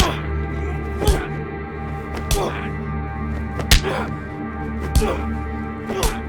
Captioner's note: grunting; smacking